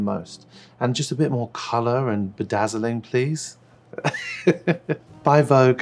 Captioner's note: laughs